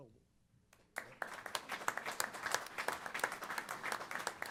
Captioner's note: applause